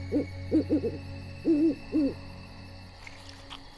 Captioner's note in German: Eulenschrei